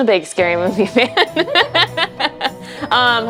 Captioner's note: hosts laugh